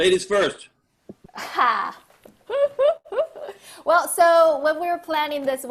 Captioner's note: laugh